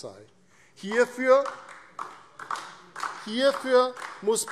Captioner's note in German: Beifall DIE LINKE